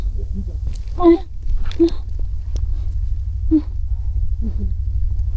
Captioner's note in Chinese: 努力起身的声音